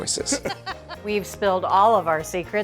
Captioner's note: hosts laughing